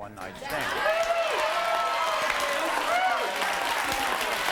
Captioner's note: audience cheers